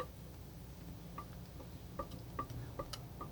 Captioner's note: tapping